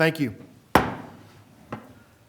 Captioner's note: gavel